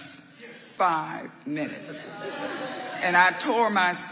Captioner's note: audience laughing